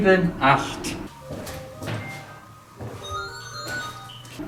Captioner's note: the phone rings in the museum